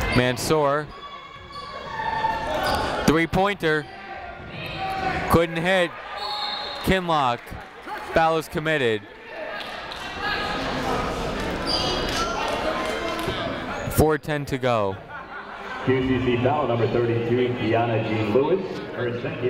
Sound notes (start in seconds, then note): 0.9 people shouting in the crowd; 6.2 whistle tweeting; 10.2 people talking in the crowd